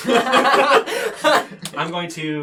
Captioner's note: laughter